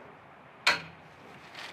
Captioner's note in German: Klacken